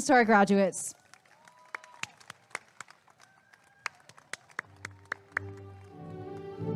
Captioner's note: applause and cheering